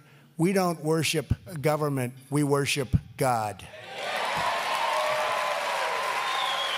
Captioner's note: applause